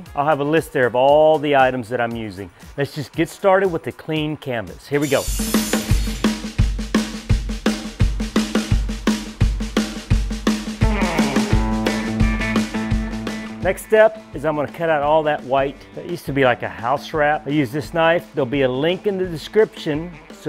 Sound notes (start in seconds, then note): 5.0 metal shearing; 7.1 upbeat rock music